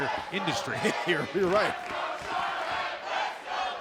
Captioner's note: laughs